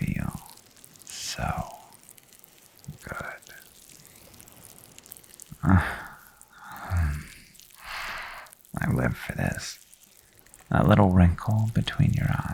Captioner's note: shudder